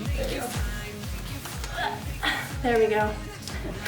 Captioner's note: grunting